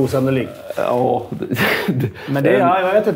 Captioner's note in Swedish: skratt